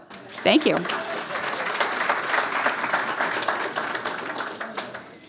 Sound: applauding

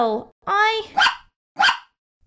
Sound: bark! Bark!

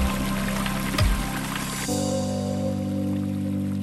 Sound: running water

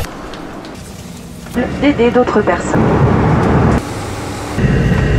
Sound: static background noises

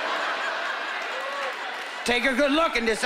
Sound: laughter

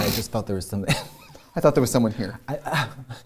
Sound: laughs; scoffs

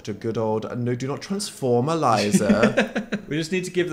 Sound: Phil laughs

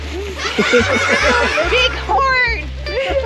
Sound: laughing sound track

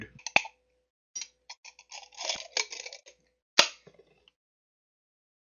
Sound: sound of opening jar of weed

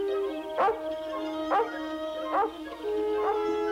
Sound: Shep barking

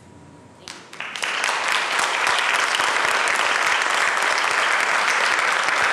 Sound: applause

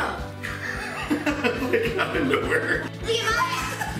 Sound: laughing

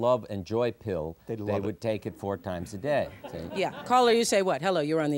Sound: laughter

